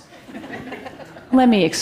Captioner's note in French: Rires